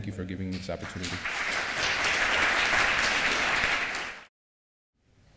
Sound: applause

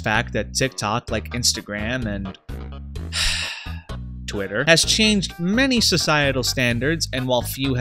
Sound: sigh

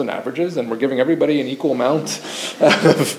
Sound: chuckles

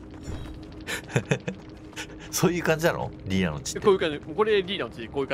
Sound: laughing

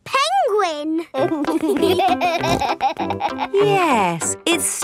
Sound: laughing

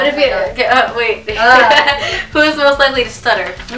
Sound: laughs

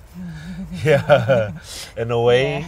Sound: laughs

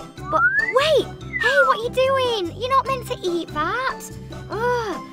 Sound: ugh

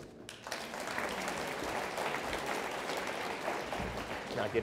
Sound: audience applauds

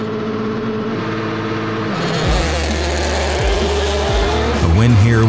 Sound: car engine roars

